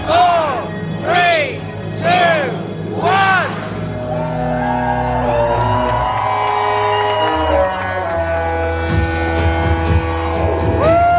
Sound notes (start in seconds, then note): 4.4 ship whistle blaring; 9.4 upbeat music